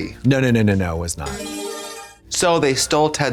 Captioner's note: bright chime